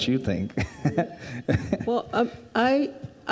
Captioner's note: chuckles